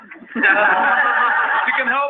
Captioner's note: laughing